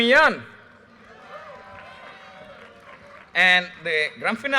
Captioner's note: audience cheers and applause